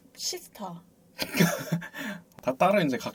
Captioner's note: laughs